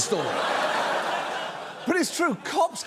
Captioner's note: audience laughs